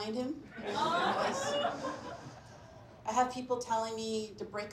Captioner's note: laughter